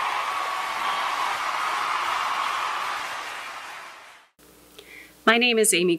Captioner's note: cheering